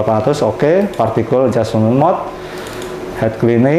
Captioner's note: clicking sound